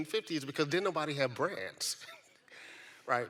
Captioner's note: laughs